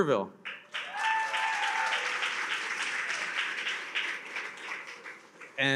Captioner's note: attendees cheer and applaud